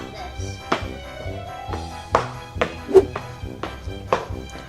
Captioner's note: stomping